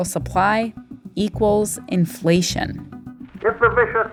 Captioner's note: soundbite of archived recording